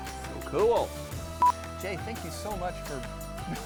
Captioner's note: beep